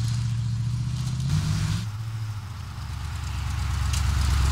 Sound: van roars off

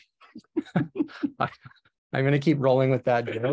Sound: laughing

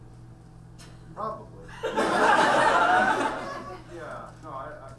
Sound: audience laughs

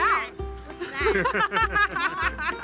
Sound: laughs

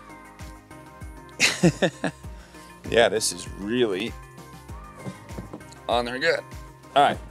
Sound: light music continues; laughs

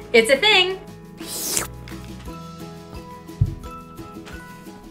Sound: slurping

